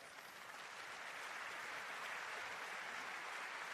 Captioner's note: applause